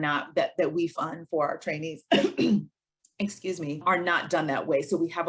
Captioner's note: coughs